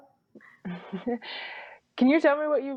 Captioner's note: chuckles